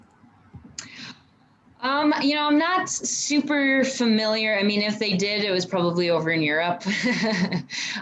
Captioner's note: laughs